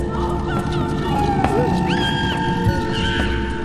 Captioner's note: child screams